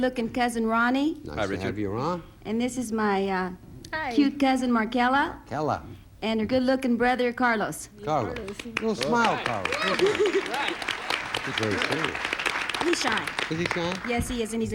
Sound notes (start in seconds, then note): 10.5 audience applauding